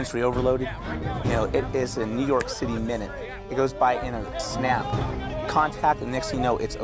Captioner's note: snaps